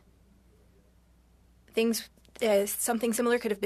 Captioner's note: speaking French